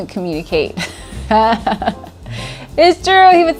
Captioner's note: laughs